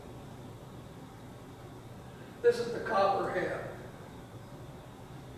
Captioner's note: none